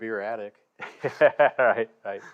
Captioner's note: chuckles